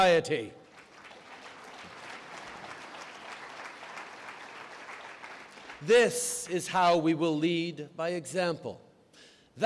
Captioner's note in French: Applaudissements